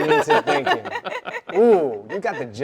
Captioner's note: both laughing